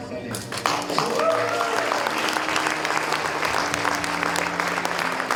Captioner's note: audience applauding and cheering